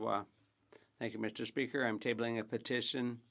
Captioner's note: speaking French